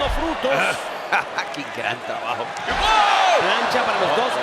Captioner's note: laugh